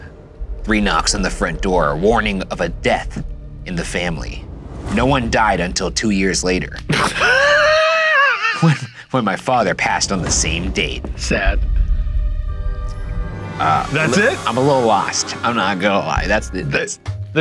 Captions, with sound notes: Three knocks on the front door. Warning of a death in the family. No one died until two years later (laughing) When my father passed on the same date. - Sad. That's it? - I'm a little lost, I'm not gonna lie. That's the-